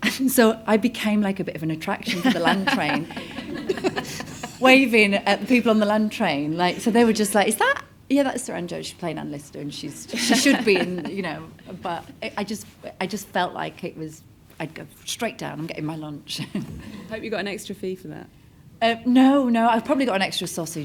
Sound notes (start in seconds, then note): 3.6 audience laughs